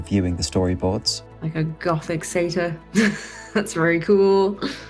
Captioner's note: chuckles